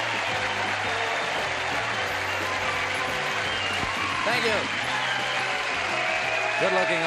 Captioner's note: cheering and applause